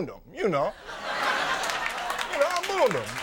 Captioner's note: audience laughing